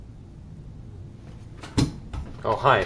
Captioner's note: thump